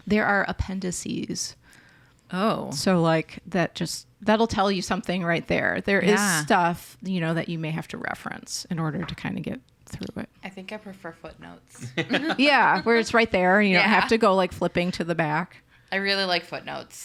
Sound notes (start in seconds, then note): 11.8 laughs